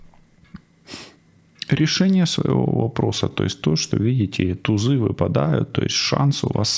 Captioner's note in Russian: фыркает